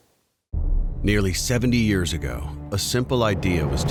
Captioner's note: voiceover